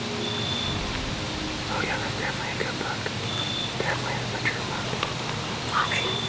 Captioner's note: whispering